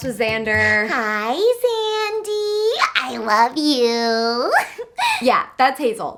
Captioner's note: giggles